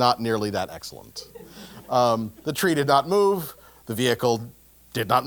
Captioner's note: laugh